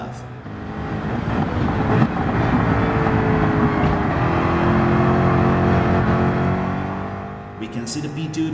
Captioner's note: engines revving, cars noises